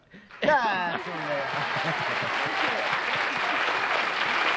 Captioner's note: applause